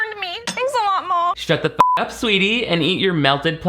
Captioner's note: beep